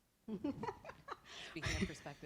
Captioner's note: laughing